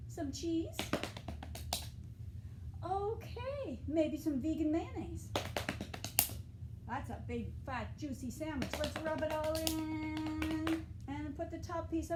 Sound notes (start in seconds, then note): 0.8 clapping; 5.3 clapping; 8.6 clapping